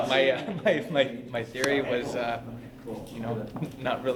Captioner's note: laughs